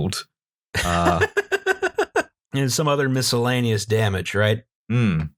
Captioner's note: laughter